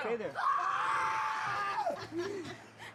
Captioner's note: screaming; laughter